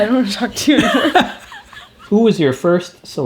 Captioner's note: laughs